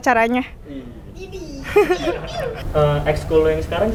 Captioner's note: the committee freakingly shouted from behind